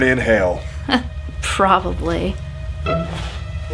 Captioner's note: scoffs